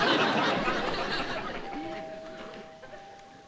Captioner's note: doorbell ringing